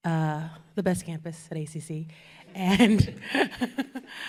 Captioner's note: chuckling